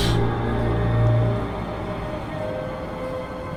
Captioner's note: hissing sound